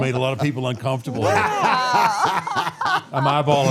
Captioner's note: all laughing